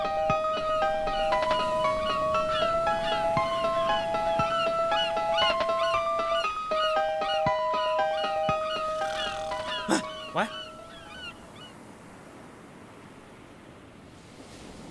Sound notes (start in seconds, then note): 0.3 seagulls calling; 9.0 snoring